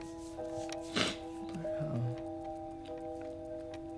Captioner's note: sniffles